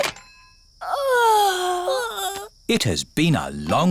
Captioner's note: giggles; both yawn